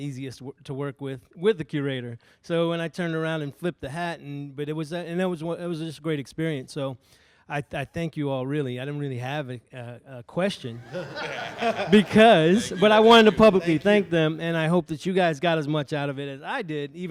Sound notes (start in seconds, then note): 10.7 audience laughs